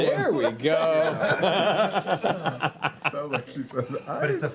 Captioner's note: laughter